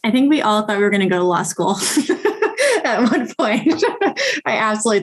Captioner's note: laughing